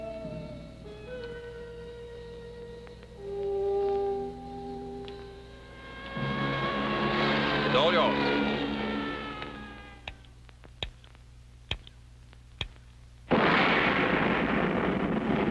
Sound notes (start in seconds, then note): 5.4 sirens wailing; 8.3 switches clicking; 13.3 rocket firing